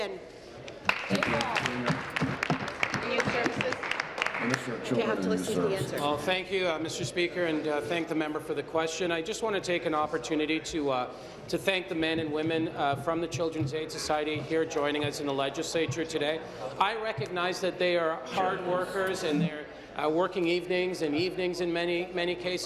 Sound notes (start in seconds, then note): 4.3 applause